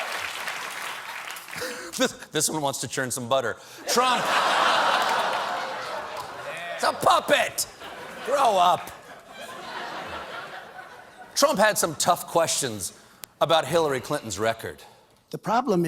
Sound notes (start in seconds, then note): 0.0 applause; 7.6 laughter